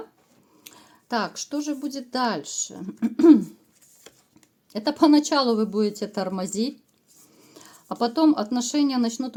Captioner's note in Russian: откашливается